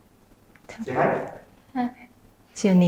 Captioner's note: shyly